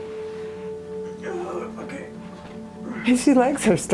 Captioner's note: grunts